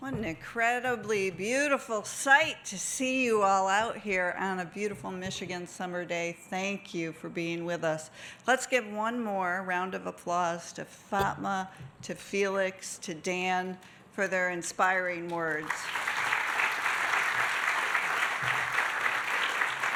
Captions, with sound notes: - What an incredibly beautiful site to see you all out here on a beautiful Michigan summer day. Thank you for being with us. Let's give one more round of applause to Fatma, to Felix to Dan for their inspiring words. (audience applauding)